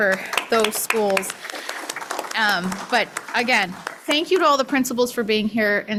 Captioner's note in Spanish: aplausos